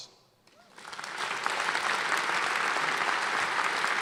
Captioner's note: applause